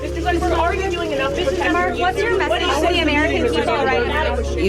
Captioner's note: reporters shouting